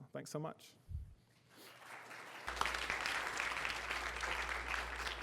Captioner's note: applause